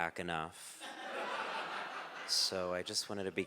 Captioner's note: audience laughing